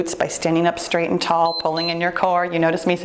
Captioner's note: timer beeps